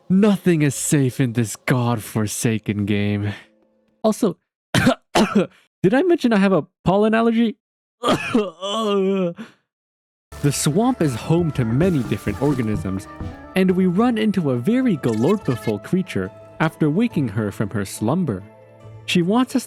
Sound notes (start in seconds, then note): 4.7 cough; 8.0 groan; 8.0 cough